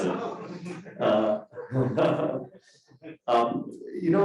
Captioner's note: crowd laughing